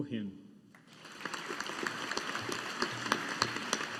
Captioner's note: audience applauding